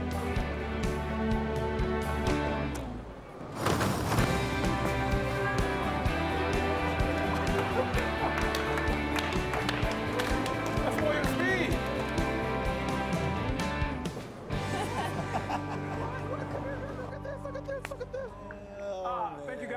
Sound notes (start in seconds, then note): 3.9 lane bumpers rattle; 7.0 Darnell claps; 14.6 Mark laughs